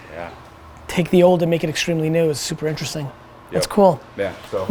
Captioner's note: none